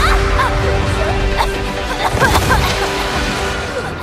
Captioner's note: coughing